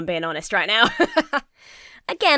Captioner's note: laughs